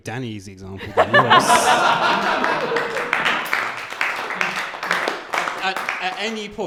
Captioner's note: laughter and applause